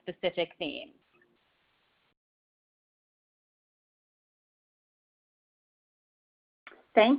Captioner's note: silence